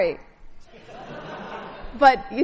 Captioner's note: laughing